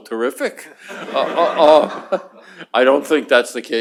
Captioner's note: laughter